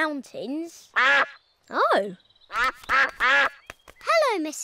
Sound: all quack

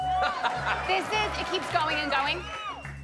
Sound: laughs

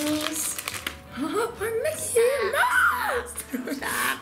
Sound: laughing

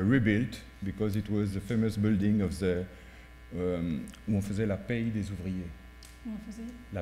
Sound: french

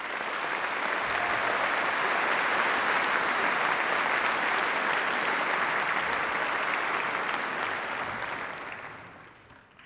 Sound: applause

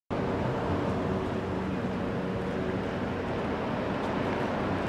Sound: quiet hum of traffic on a downtown street

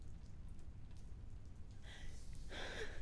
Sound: woman cries

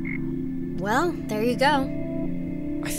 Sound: frog croaking

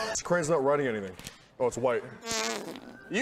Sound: fart noise

